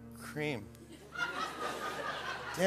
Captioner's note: laughter